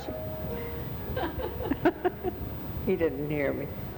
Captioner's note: laughing